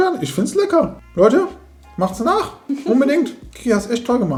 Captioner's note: laughing